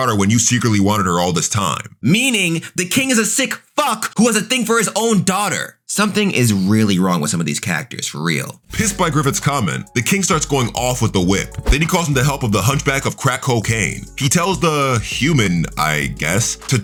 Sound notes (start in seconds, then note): 8.4 air whooshing; 11.6 air whooshing